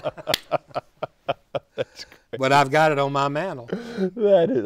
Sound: laughter

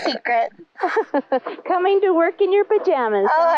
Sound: laughter

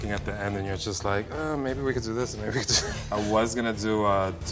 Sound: laughs

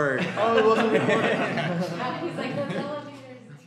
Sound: laughter

